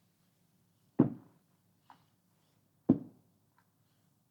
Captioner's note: ball thuds